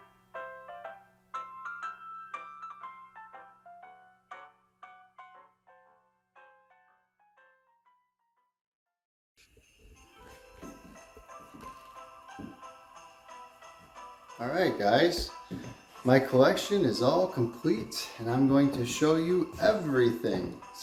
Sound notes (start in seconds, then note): 0.0 piano music fades out; 10.2 sleigh bells jingling